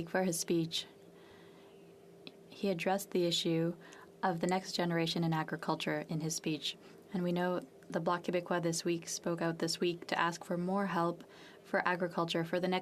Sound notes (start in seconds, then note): 3.5 speaking French